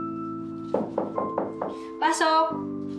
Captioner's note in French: knocking on door